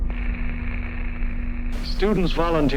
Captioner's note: static